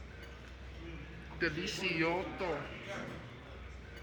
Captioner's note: Spanish